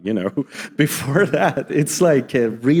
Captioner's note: audience chuckling